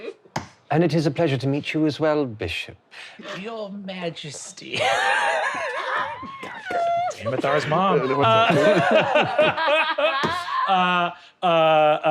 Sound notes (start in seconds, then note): 0.0 laughing; 4.7 laughing